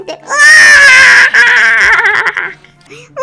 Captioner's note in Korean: 으아아악